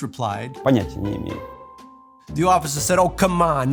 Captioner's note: speaking russian